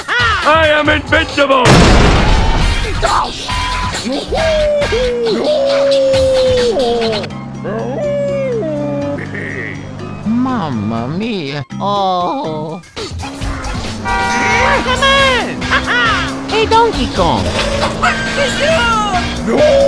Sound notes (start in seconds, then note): 14.7 groan